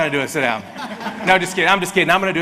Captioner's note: audience laughs